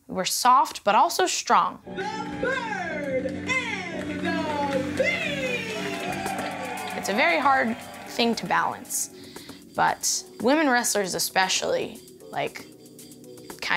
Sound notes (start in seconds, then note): 4.0 crowd cheers